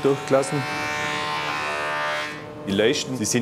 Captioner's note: loud whirring